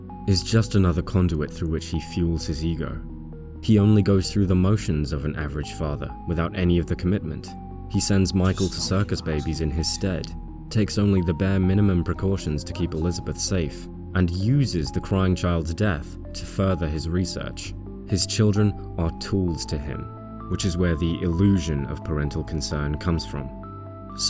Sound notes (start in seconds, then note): 3.0 <laughing> "You may not recognise me at first, but I assure you: it's still me"